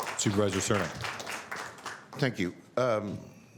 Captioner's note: applause